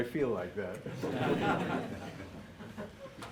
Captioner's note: laughter